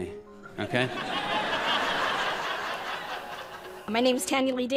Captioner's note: audience laughs